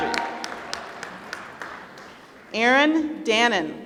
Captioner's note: applause